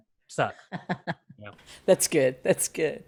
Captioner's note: laughs